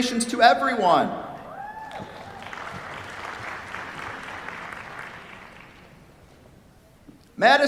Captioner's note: cheers, applause